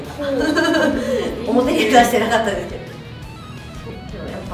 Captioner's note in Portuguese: risos; risos